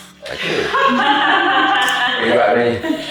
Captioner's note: laughing